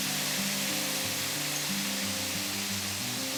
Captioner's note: sizzling